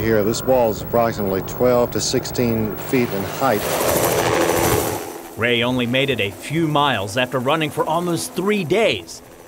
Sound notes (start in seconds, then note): 3.6 helicopter rotor